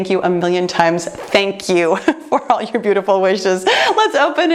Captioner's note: laughs